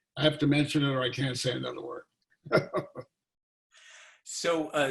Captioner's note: laughing